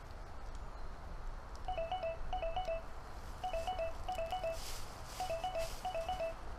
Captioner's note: phone of dead guy starts ringing